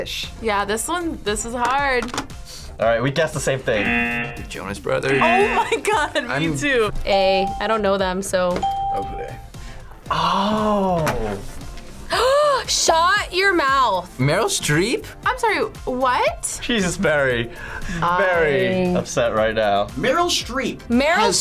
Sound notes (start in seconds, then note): 3.7 buzzer; 8.6 ding; 9.6 gasps